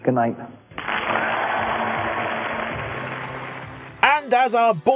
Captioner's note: audience Applause